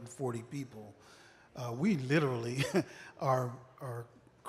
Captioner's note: laughter